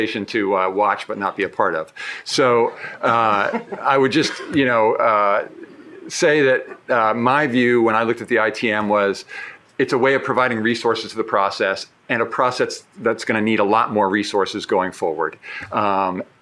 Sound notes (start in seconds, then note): 3.0 shared laughing